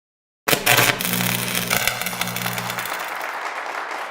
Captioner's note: electric buzzing; audience applauds